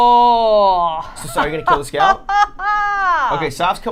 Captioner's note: dramatic laughter